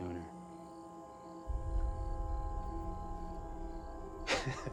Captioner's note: crickets chirping; tense music; Ben laughs